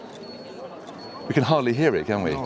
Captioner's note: faint chiming